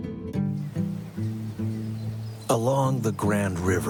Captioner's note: birds chirping; upbeat music